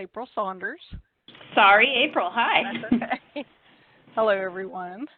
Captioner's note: laughs